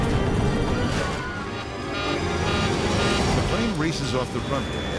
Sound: instrument beeps

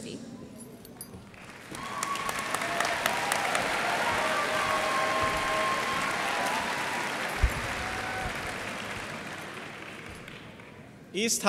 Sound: cheers and applause

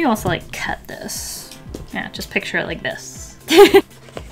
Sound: laughs

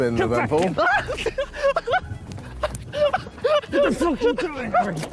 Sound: Harry laughing

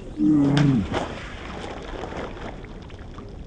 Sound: slow and deep; splash

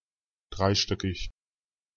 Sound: fast Pronunciation

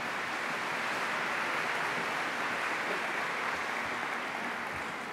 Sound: applause

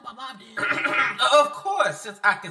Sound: clears throat

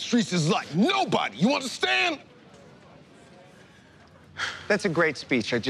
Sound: sighs

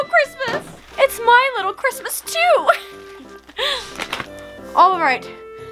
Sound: laughter

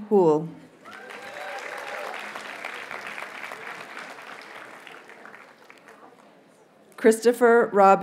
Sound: audience cheers and applauds

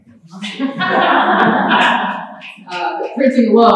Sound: laughter

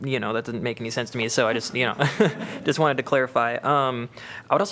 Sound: laughter

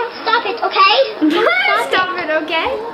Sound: laughing

